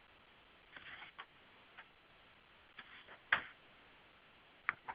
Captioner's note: pages ruffling